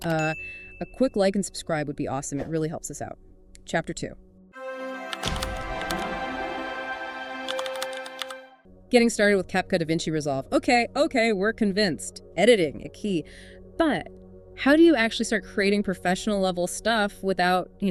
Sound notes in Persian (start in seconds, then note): 5.5 تشویق حضار